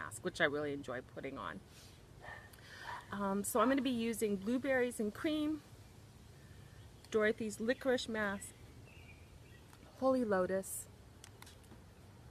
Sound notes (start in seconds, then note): 2.2 dog barking